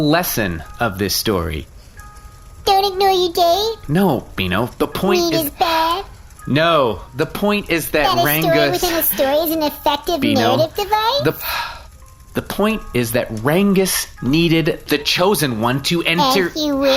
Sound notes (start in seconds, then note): 11.7 huffs